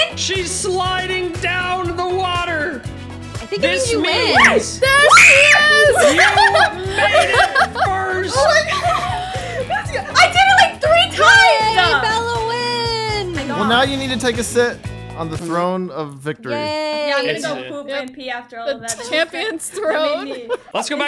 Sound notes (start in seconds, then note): 4.8 screams